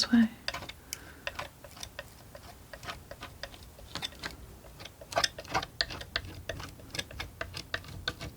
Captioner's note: tapping